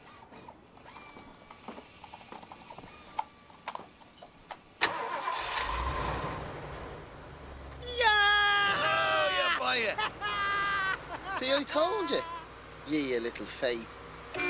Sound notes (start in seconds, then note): 4.8 El motor arranca; 8.5 Reír